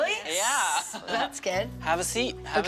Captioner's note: laughing